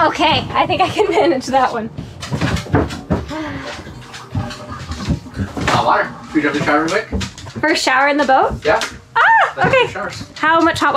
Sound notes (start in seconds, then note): 2.3 footsteps clumping; 3.2 sighing; 9.4 yells